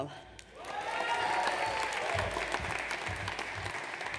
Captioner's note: audience cheers